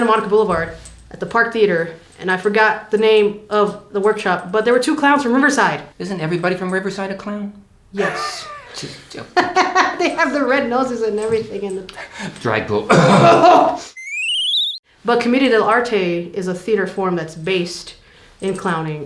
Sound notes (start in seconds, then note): 12.8 coughing